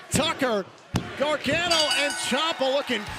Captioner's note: bell